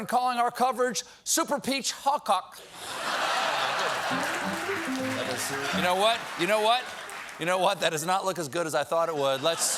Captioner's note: laughter